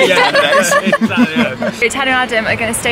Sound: laughs

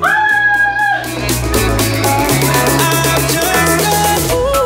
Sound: timer beeping

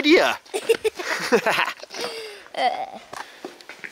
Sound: laughs

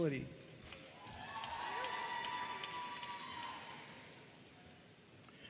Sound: audience cheering and applauding

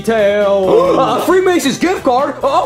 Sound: Bowser gasping

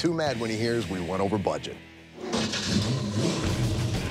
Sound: starts engine

